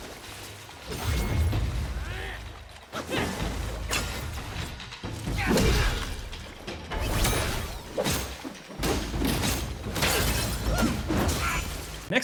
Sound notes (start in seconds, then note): 0.0 water splashing; 8.1 sword swooshing and thudding